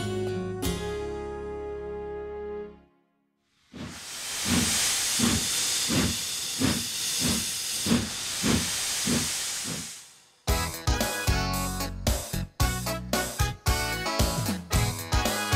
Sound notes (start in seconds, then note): 3.6 wheesh!